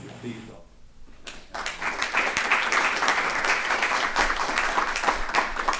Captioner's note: applause